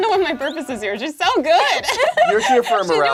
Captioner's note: laughs